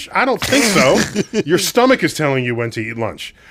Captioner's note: laughs